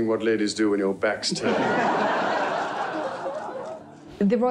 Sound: audience laughing

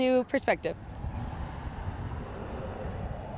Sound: cars passing

